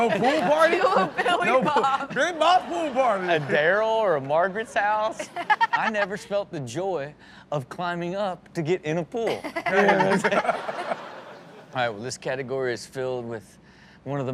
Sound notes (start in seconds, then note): 9.4 everyone laughs